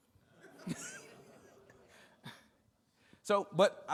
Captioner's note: attendees laughing